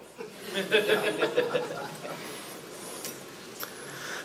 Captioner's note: audience laughing